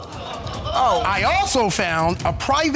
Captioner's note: audience exclaiming